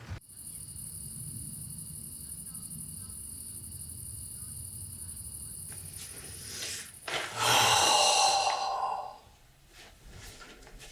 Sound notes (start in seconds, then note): 0.2 crickets chirping; 7.3 Anderson sighing